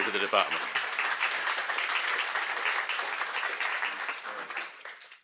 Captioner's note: applause